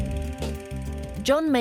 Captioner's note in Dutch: projector zoemt